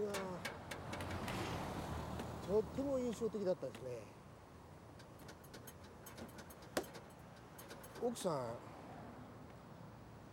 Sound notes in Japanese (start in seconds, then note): 5.0 返却レバーを 操作する音; 6.6 たたく音